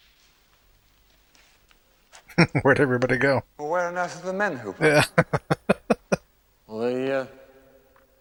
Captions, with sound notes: [Chuckling] Where'd everybody go? Yeah. [Laughing]